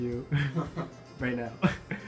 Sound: light laughter

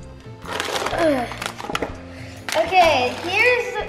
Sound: package crinkling

